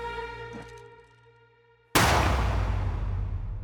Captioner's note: gunshot